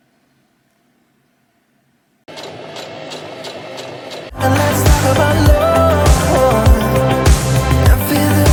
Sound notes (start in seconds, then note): 2.2 sewing machine surges